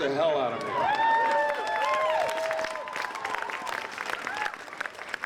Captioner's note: applause